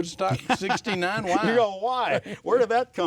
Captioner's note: laughs